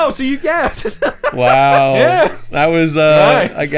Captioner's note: laughing